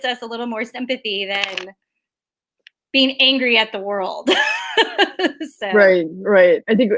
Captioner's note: laughs